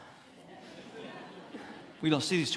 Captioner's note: congregants laughing